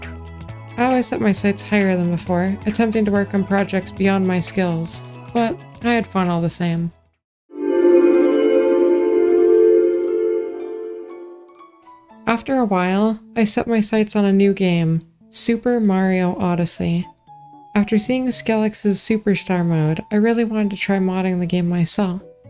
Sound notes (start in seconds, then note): 7.6 chapter transition sound, whooshing; 9.9 happy & light-hearted